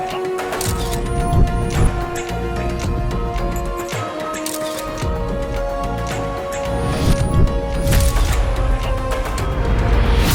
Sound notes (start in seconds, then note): none